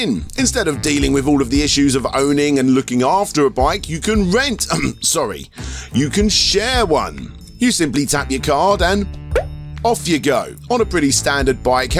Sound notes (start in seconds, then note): 4.7 cough